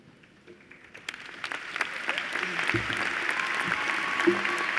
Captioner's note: applause